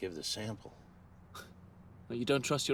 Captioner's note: chuckles